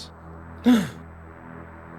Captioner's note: sigh